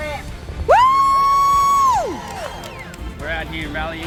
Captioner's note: protestors cheering